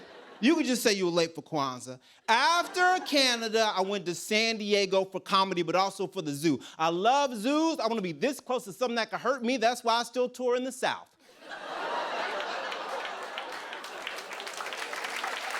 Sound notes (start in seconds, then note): 11.2 laughter; 12.2 applause